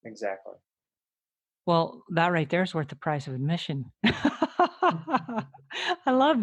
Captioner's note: laughing